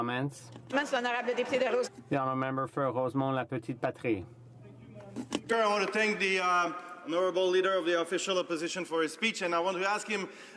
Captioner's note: some Applause